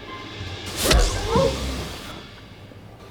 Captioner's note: pow; WIMPs gasp